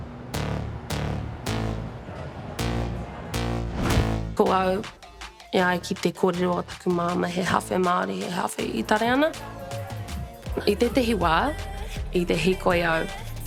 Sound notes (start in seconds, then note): 4.6 speaks Te Reo Māori